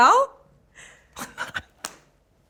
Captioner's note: laughs